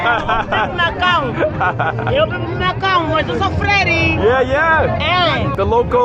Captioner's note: laughing; villager speaking in foreign language